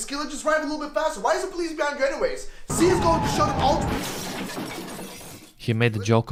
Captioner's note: car crash sound